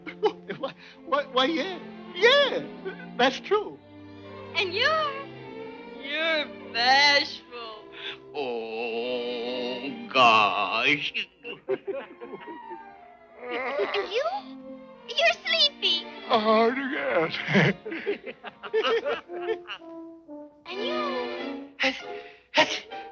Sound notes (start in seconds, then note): 3.4 chuckling; 11.3 chuckling; 11.4 yawning; 16.4 laughing